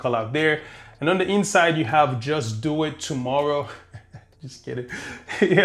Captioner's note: laughing